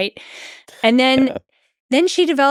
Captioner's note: Lex chuckles